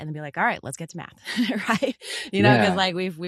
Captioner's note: laughs